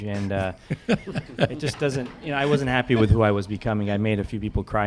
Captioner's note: laughter